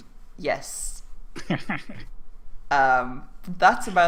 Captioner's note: laugh